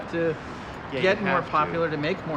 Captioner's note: street noise